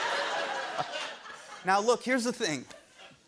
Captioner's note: laughter